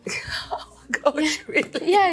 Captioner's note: chuckles